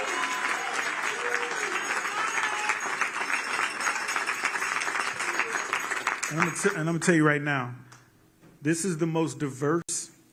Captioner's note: cheers and applause